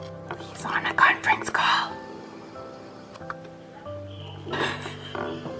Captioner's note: laughs